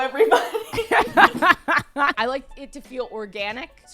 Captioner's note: laughs